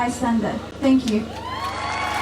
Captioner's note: crowd cheers